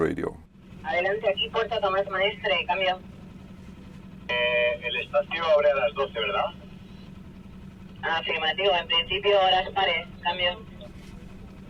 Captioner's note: Talk on VHF radio